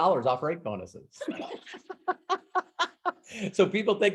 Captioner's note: laughing